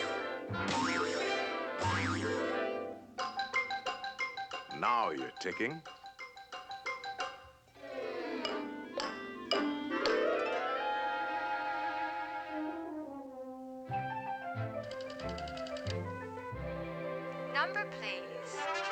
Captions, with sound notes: Now you're ticking. (TELEPHONE DIALING) OPERA TOR: Number, please.